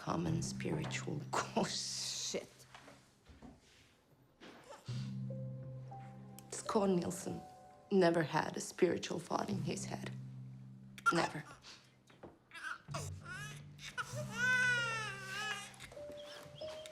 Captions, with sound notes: by a common spiritual course shit. (dark orchestral music) Schouw Nielsen never had a spiritual thought in his head. Never. (baby cries) Shh, shh, shh.